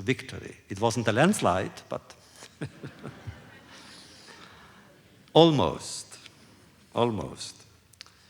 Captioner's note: laughter